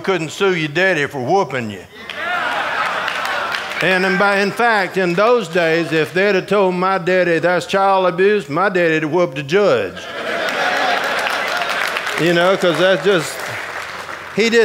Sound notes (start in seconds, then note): 10.2 audience applauding